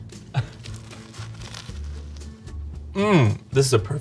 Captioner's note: sandwich crunching